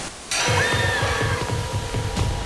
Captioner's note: gentle tense music; dramatic music; Kira screams